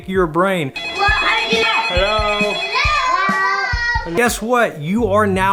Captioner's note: phones ringing; children exclaiming